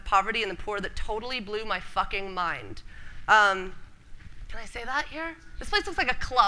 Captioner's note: whispers